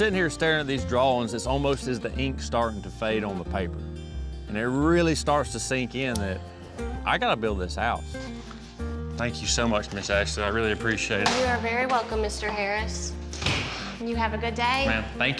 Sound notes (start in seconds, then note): 13.3 vault door closes